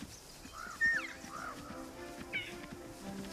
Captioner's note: bleating